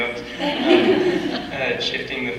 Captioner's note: audience laughs